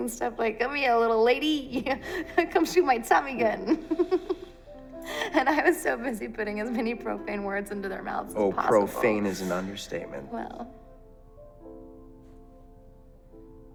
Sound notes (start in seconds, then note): 3.4 laughs